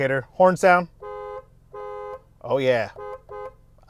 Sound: horn beeping

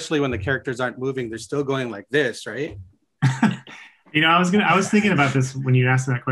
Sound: chuckles

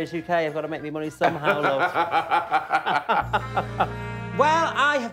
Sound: laughing

